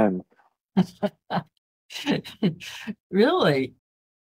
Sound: laughter

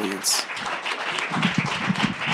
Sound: clapping

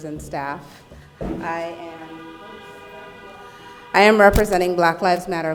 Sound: cars honking

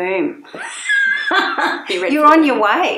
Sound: both laughing

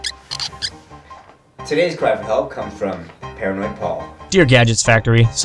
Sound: squeeky Chair

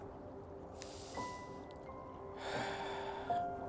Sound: sighs

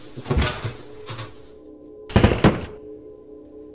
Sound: door Opens & Slammed Shut

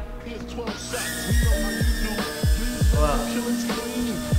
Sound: drone buzzing

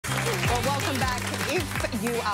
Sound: applause

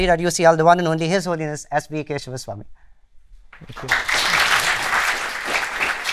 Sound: applause

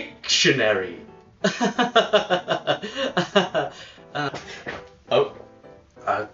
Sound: sarcastic self loathing laugh

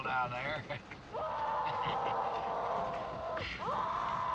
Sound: muffled screaming

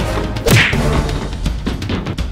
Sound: kick

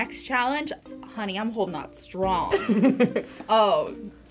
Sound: chuckles

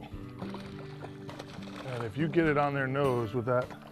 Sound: splashing

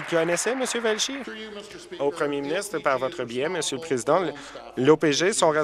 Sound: applause

